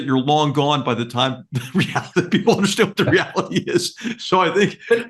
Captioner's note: laugh